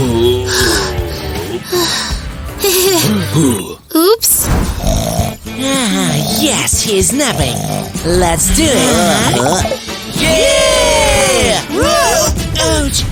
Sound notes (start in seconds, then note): 0.0 sounds of grunting; 4.2 heavy breathing